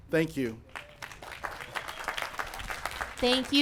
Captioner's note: applause